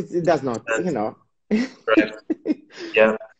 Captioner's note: laughs